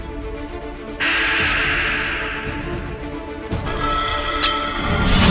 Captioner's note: intense music; beast rattles; stinger clinks